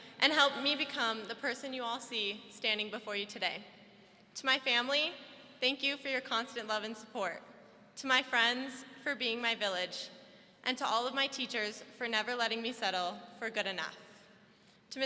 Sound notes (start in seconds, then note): none